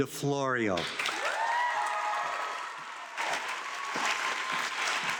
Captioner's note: audience clapping